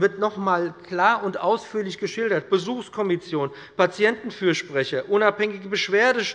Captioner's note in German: none